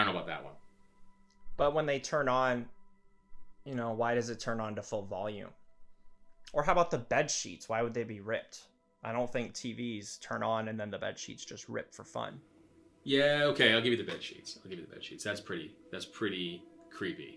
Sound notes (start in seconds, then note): none